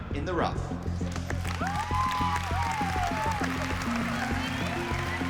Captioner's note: cheering